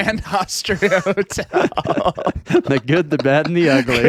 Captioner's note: laughing